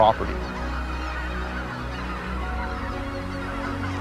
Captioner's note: birds cawing